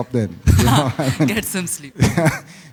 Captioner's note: laughter